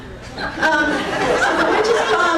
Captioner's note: crowd laughing